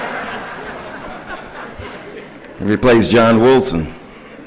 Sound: laughter

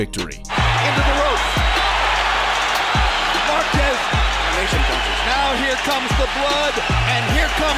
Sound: crowd noise

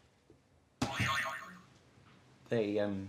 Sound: boing

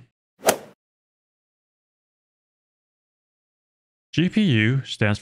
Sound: golf ball hit sound effect

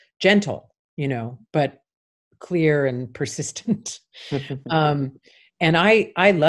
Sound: chuckles

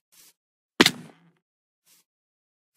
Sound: boNeS bReAk

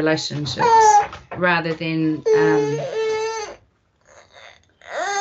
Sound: baby cries

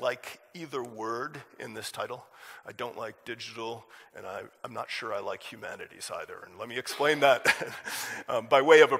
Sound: chuckle

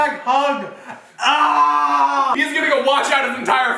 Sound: shouting

